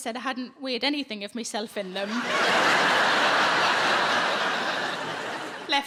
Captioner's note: audience laughs